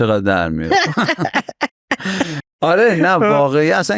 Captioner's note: laughs